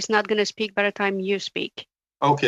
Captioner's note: speaking in French